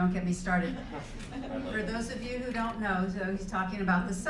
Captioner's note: laugh